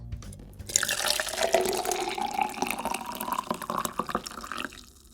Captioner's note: pouring water